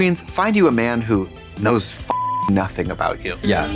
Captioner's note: beep; bright chime